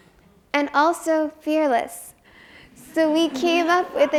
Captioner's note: audience laughs